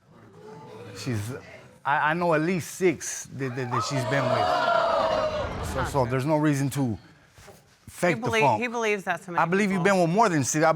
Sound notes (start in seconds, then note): 3.5 audience exclaiming